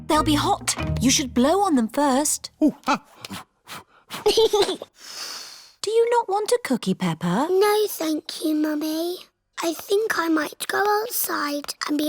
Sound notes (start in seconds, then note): 3.8 blows; 4.0 giggles and blows